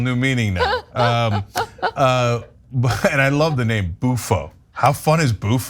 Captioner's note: laugh